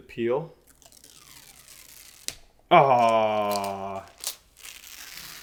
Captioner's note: plastic peeling